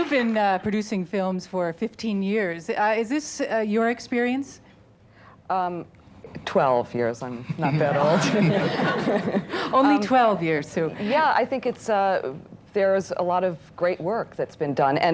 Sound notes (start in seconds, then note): 0.0 applause fades; 7.6 audience laughs